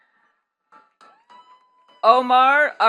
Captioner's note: attendees clapping